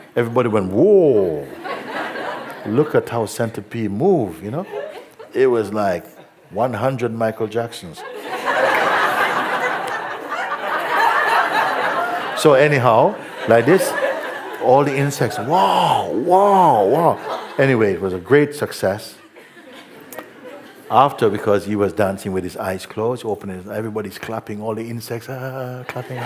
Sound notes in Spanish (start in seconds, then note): 11.2 risas